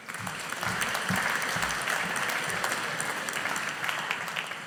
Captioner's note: audience applauding